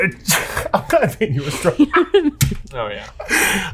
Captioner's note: laughing and murmuring